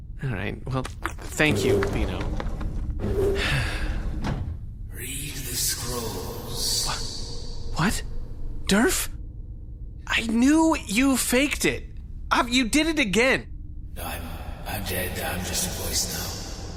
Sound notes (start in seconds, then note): 3.3 door closes, Pleck sighs again; 5.7 ghostly voice